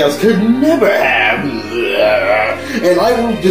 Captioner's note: evil laughter